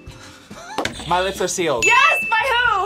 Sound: laughs; bell rings; buzzer rings

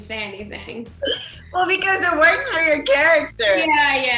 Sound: laughs

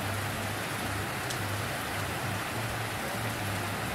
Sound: rain Sounds

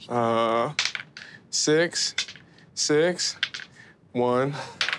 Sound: dice clatters

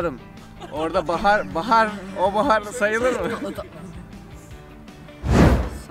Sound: laughs

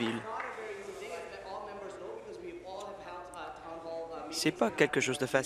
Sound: applause

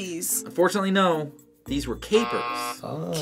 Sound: buzzer

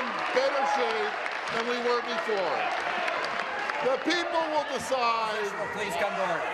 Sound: applause

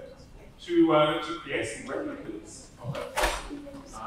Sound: door slamming

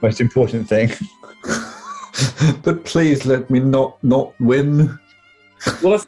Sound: laughing

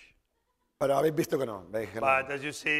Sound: speaking spanish

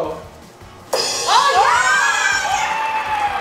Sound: cheering

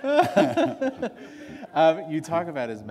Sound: laughter

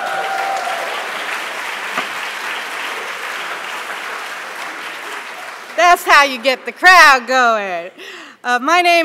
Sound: applause

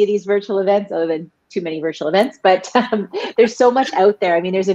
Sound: laughs

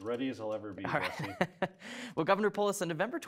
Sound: laughs

